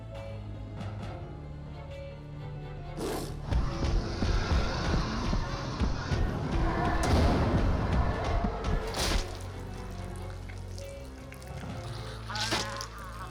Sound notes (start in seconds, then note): 3.0 roars